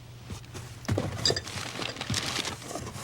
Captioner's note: rummaging